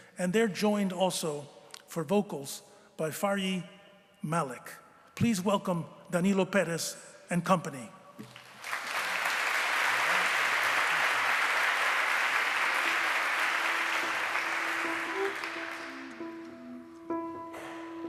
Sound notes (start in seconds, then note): 8.2 applause